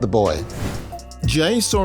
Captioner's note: air whooshing